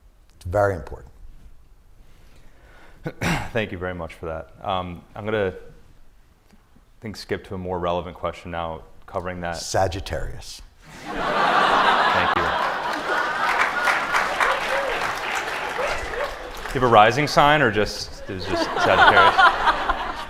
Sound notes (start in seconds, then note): 10.8 laughter; 13.8 applause